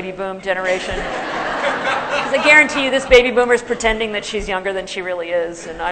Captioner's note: laughter